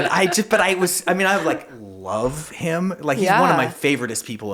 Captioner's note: laughing